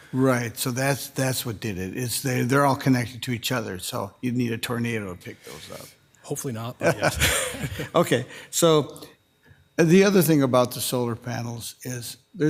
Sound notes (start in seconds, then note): 6.8 laughing